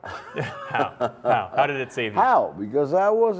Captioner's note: laughter